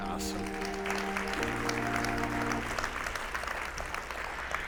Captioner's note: attendees applauding